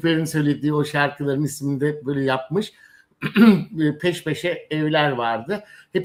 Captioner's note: boğazını temizler